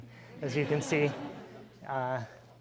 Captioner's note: laughing